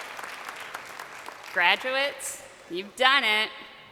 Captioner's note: crowd cheering